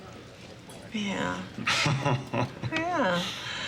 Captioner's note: laughs